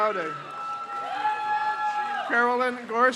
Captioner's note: crowd cheers